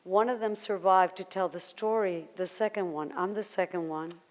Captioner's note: none